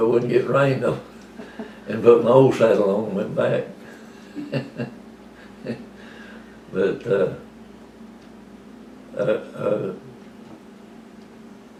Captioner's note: laughter